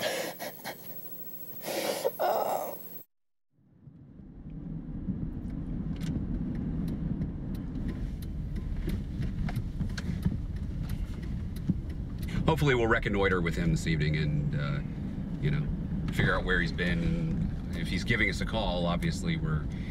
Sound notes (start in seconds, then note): 1.7 crying; 5.5 car blinkers and traffic noise